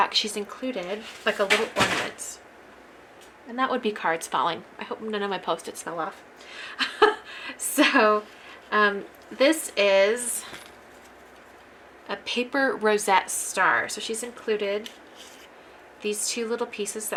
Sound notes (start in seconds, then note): 6.8 laughs